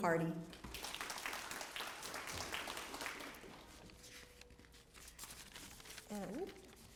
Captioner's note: applause